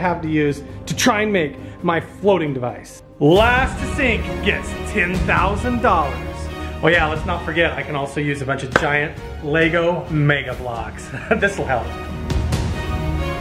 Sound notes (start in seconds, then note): 11.0 laughs